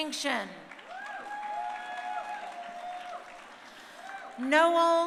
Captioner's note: crowd cheering